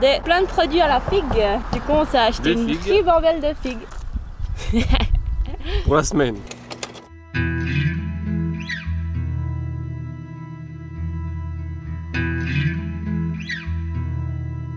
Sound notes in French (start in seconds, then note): 5.0 Rire